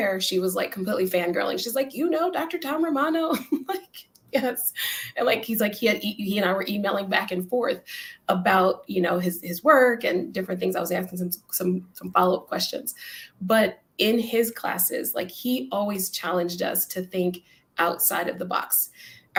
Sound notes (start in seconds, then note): 3.3 laughter